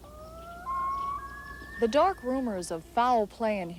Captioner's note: loon calls